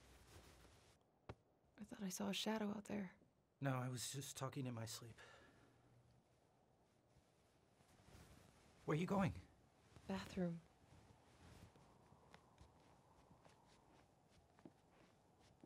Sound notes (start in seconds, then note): 12.4 wind whistles